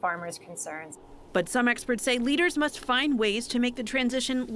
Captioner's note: voice-over